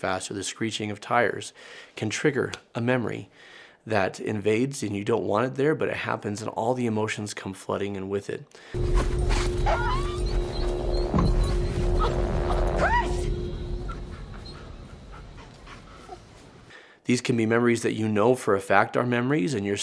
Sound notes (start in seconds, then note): 8.8 dog barking; 11.9 woman screaming